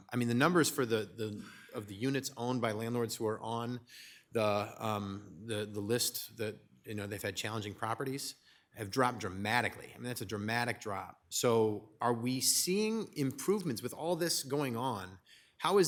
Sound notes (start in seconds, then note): none